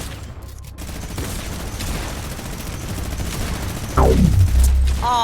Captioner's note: rapid gunfire